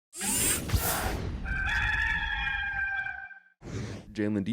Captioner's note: rooster crows